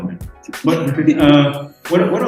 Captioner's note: giggling